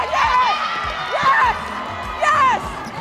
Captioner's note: cheering